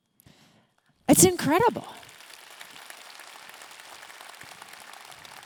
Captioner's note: audience clapping